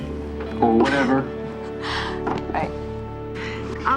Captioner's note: chuckles